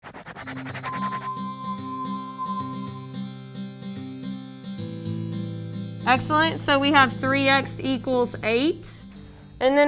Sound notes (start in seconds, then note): 0.0 pen scratching; 0.8 light music